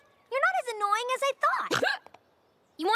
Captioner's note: hiccups